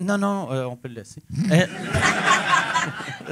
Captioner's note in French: rires